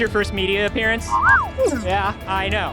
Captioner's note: BD-1 sounds